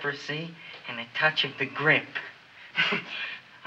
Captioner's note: chuckles